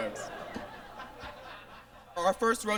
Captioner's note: audience laughs